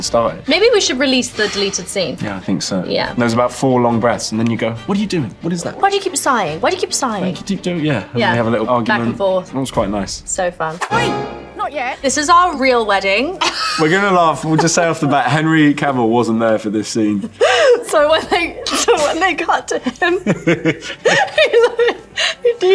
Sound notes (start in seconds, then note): 17.6 Millie laughing; 20.0 both laughing